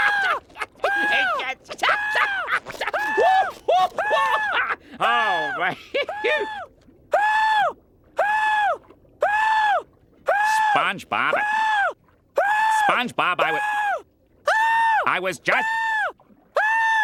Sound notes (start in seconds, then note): 0.0 screaming; 0.0 laughing; 7.1 screaming; 14.4 screaming; 16.5 screaming